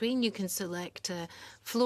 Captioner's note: speaking French